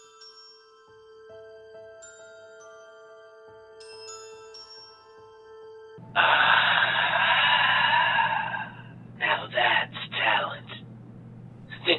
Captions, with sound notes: (exhaling sharply) Now that's talent.